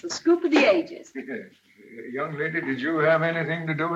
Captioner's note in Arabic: يضحك